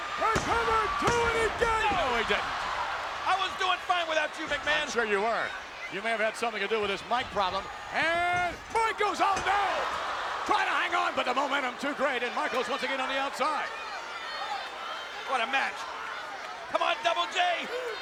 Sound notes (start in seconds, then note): 14.8 audience chattering